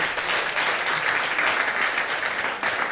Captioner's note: audience applauding